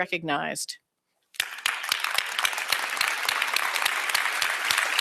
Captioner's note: applause